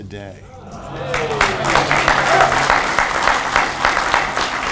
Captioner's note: audience applauds